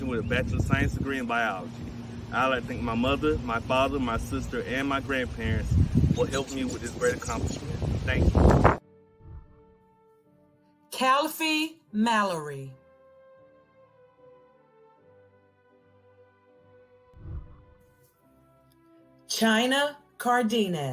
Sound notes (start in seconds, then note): 9.2 celebratory music; 13.6 celebratory music; 17.1 whooshing